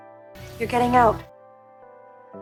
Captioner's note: voiceover